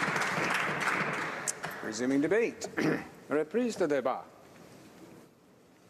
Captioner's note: some Applause